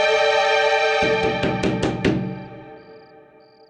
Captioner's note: knock On Door